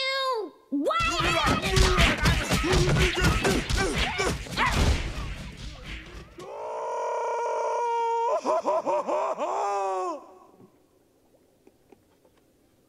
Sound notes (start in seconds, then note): 2.5 yelling; 6.4 Patrick bellowing; 10.6 clamor subsides; 12.6 footsteps approaching